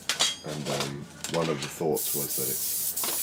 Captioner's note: none